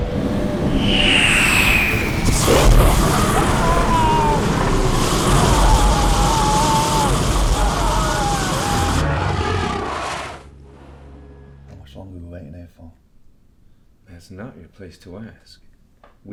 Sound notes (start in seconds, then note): 2.2 dragon roars; 2.2 Matt screams